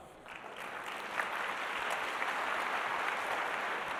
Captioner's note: applause